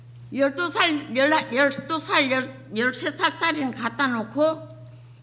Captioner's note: speaking foreign language